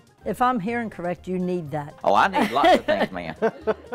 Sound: laughs

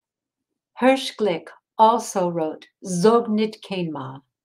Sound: speaking in foreign language

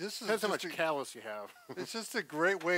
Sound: laughs

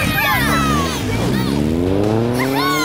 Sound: cheering

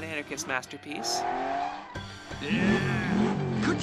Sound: car engine revving

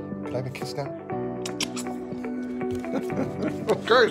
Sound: kissing; laughing

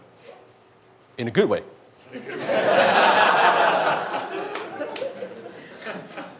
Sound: audience laughs

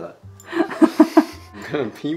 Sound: laughing

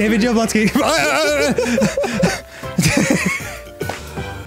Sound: singing; laughing; stammering

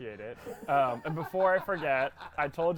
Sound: laughing

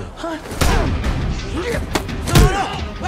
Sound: grunting

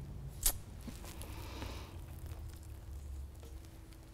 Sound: inhaling deeply

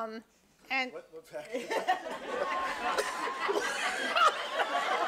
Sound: audience laughing

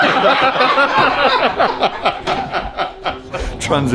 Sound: people laughing

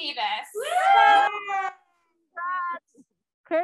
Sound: cheering

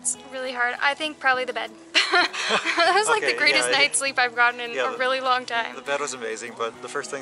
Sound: laughter

